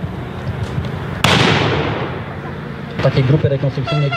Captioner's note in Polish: Strzał